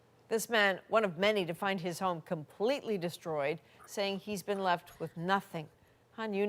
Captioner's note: speaking alternate language